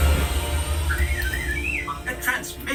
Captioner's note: R2-D2 beeping